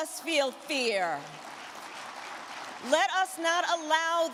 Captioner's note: crowd clapping